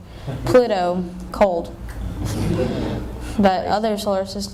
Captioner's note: laughter